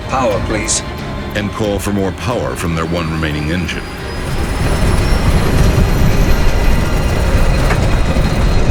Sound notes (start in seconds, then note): 4.4 plane engine rattling